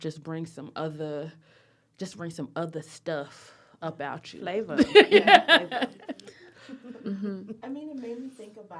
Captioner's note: laughter